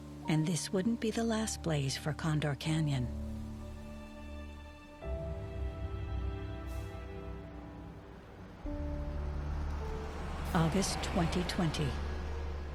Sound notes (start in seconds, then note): 8.8 road sounds